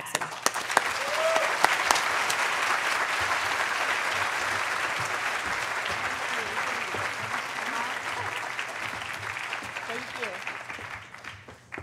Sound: applause

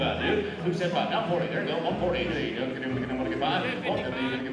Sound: auctioneer calling

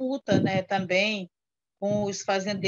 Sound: foreign language

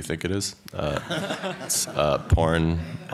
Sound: laughter

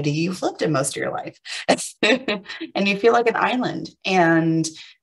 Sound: chuckles

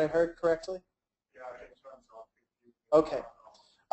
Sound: faintly speaks

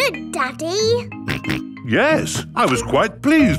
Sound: snorts

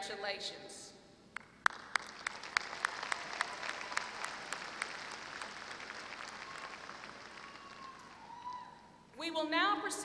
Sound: applause

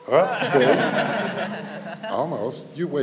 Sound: laughing

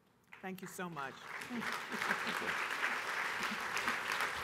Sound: applause

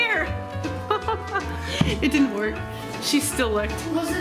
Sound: laughing

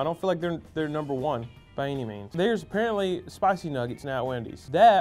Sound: none

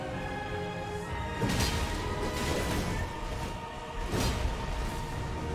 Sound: sword fighting continue; intense music continues

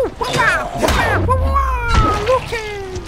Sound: mimics whooshing

